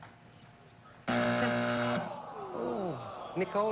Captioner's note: buzzer